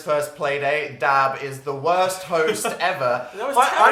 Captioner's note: laughs